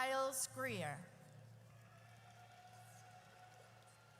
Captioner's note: audience cheers